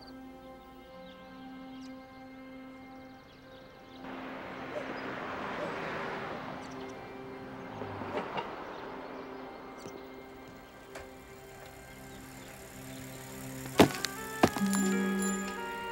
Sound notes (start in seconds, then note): 0.1 instrumental music; 4.3 car engine humming; 12.9 suspenseful music